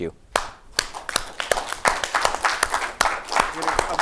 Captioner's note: applauding